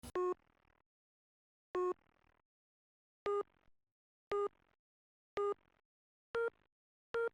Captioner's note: ECG beeping